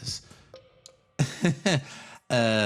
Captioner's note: chuckle